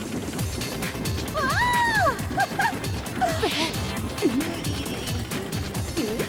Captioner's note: laughing